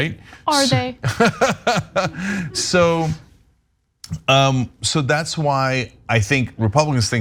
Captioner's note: laugh